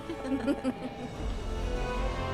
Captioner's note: Esperanza ríe